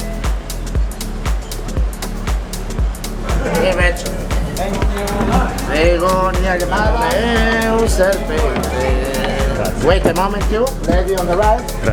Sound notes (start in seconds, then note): 3.5 foreign language; 5.7 foreign language